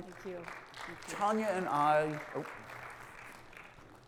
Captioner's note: audience applauds